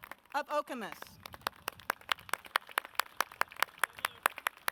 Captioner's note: audience claps